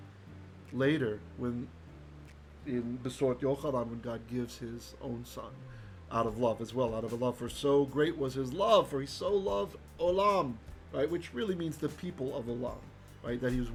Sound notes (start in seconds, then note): 3.2 Hebrew